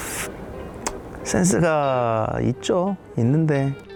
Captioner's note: reluctantly